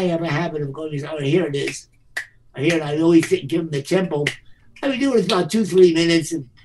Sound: claps

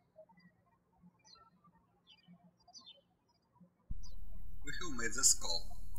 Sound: birds chirping

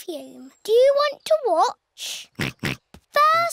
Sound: snorts

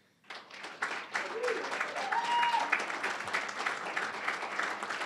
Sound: applause, cheering; applause

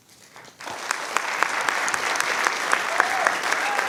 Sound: clapping

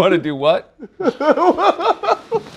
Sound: laughter

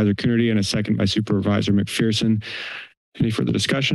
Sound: inhales

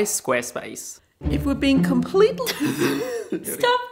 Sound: laughs

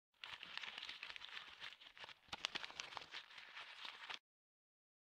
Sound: crumpled paper sound

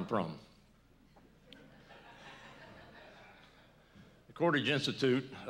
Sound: laughter

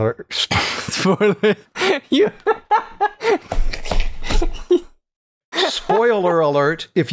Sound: laughter

